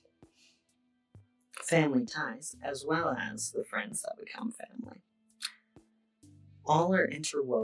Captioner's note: breath